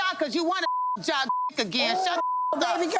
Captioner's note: beep